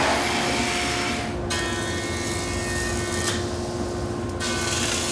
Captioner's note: equipment whirring